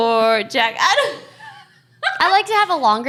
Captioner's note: laughter